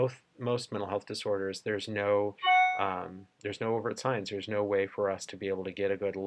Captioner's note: computer chimes